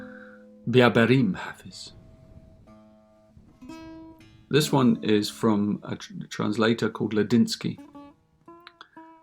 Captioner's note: reading in Farsi